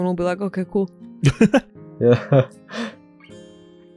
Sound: chuckle

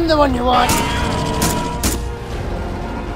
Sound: more shots fired

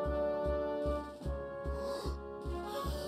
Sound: Splendid inhales; heroic music

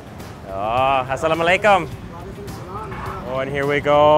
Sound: speaks in foreign language

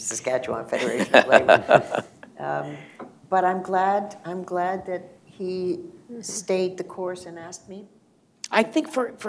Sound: laughter

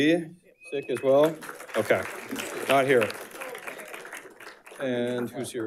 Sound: audience applauding

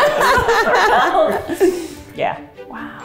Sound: group laughs

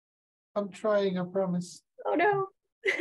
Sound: chuckles

